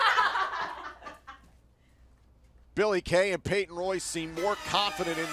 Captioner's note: laughter